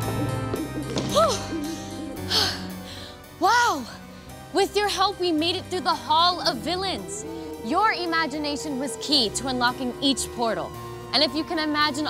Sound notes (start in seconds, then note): 1.0 sighs